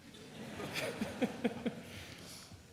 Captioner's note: everyone laughs